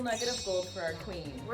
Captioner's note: chimes